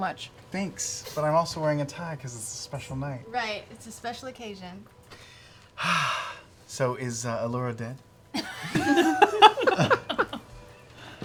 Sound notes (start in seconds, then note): 5.7 sighs; 8.3 laughter